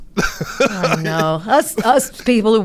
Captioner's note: laughs